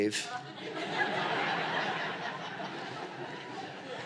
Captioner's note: laughter